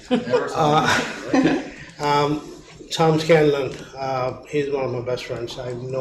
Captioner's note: laughing